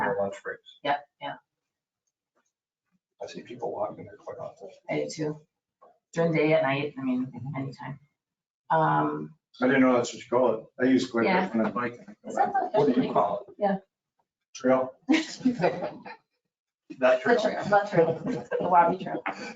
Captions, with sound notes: on their lunch breaks. Yep, yeah. I see people walking it quite often. I do too. During the day and night, any time. I didn't know that's what you call it. I used to go there when I bike. What do you call it? Trail. (everyone laughing) That trail. That trail, the Lobby Trail.